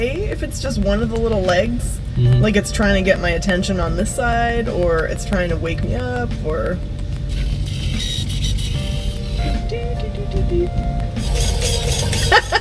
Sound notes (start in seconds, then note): 7.3 mechanical whirring; 11.4 loud whirring; 12.0 laughs